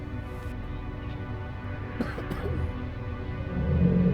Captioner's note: David coughing; tense orchestral music